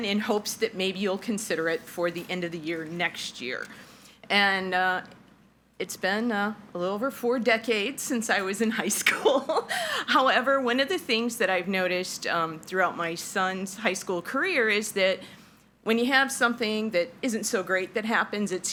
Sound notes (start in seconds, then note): 9.7 laughs